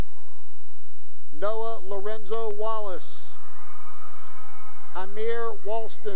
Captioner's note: cheering; cheering